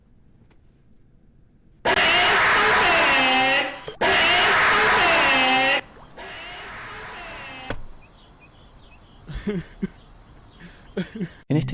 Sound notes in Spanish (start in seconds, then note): 1.9 ovación; 7.5 risas